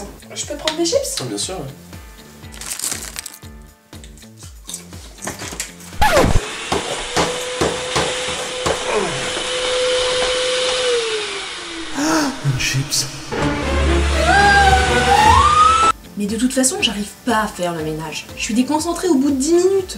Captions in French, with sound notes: Je peux te prendre des chips ? Bah bien sûr ouais *Bruit de chips* *Bruit d'aspirateur* Oh ! Une chips ! *Cri de* Mais de toute façon, j'arrive pas a faire le ménage. Je suis déconcentrée au bout de 10 minutes.